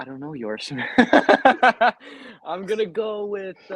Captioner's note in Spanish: riendo